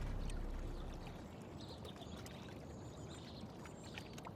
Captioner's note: bird chirping